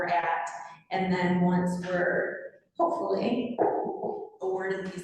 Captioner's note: knock on wood